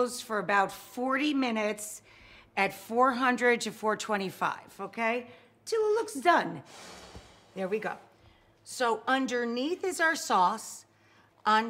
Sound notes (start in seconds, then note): 6.7 screen whooshes